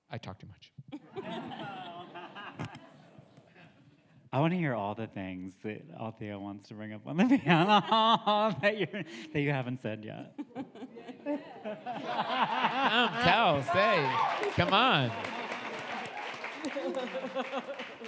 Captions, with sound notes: I talk too much. (audience laughs) I wanna hear all the things that Alethea wants to bring up on the panel (laughs) that you haven't said yet. (audience applauds) Tell, say, come on.